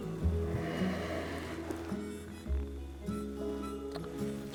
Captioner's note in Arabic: تنهدات